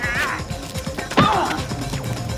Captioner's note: grunting